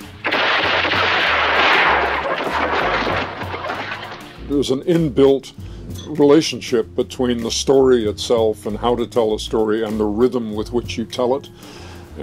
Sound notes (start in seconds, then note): 0.0 three gunshots; 1.6 wood breaking